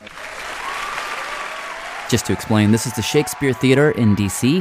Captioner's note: audience clapping and cheering